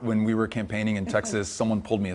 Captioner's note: laugh